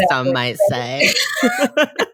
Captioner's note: both laugh